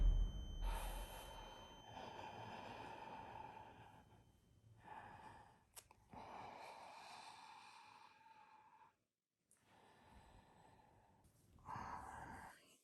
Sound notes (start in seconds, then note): 0.6 heavy Breathing